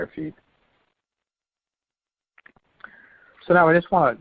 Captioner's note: silence